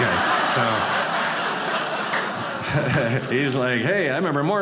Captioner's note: audience laughing